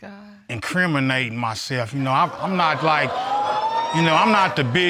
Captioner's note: audience exclaiming